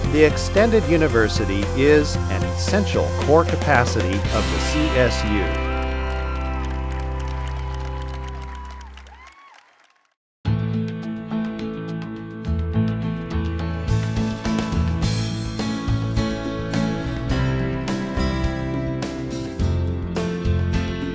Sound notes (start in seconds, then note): 5.5 cheering